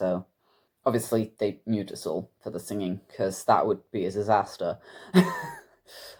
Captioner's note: laughs